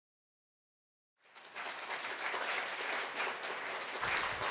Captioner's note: applause